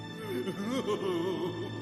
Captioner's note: crying